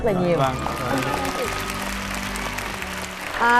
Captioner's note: applause